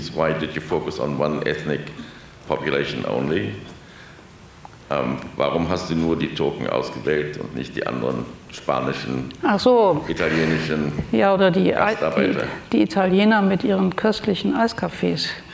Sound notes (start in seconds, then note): 5.0 speaks German; 11.0 speaks German